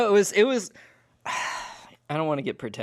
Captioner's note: sighs